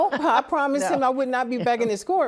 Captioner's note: laughs